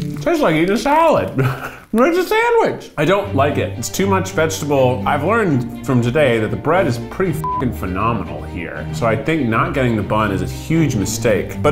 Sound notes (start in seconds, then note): 7.4 beeps